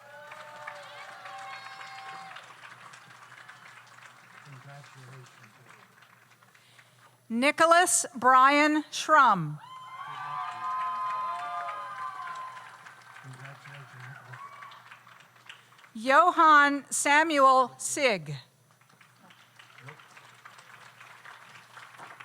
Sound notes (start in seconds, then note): 0.0 audience cheers; 0.0 audience applauds; 9.6 audience cheers; 9.7 audience applauds; 18.7 audience applauds